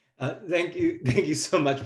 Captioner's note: chuckles